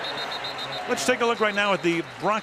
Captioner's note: whistle